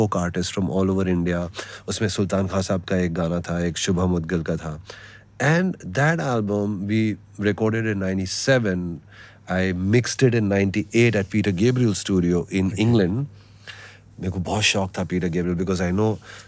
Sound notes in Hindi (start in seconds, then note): none